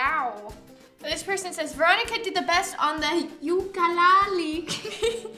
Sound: laughs

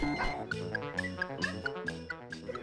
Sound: digital beeping; electronic piano

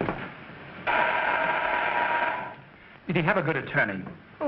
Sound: door bell buzzing

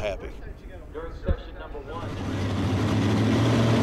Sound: car engines

